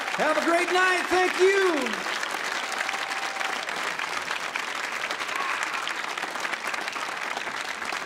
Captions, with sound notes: Have a great night! Thank you. (audience cheers)